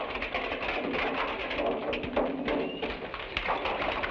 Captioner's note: horse hooves patter